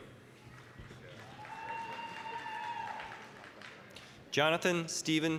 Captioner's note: applause, cheering